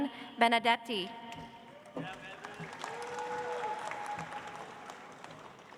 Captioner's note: audience applauds